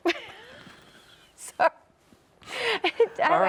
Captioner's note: chuckle